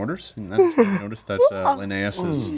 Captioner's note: yawning